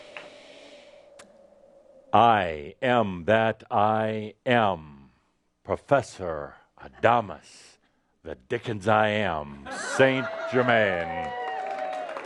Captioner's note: audience cheering and applause